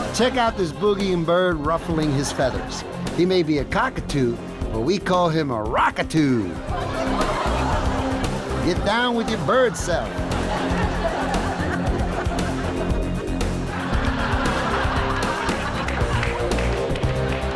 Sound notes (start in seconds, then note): 6.7 audience laughs; 10.7 audience laughs; 13.7 rock music